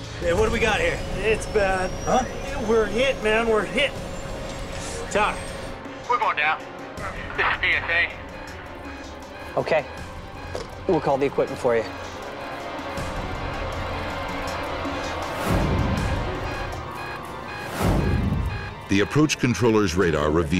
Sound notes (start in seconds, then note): 8.4 monitor beeping; 12.5 tense music